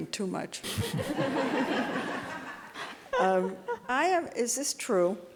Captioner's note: audience laughing